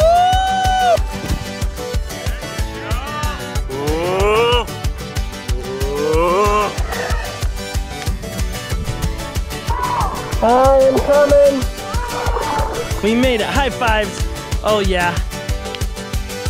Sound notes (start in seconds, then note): 2.7 yelling